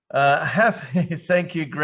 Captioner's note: chuckling